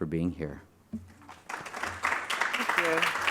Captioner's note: applause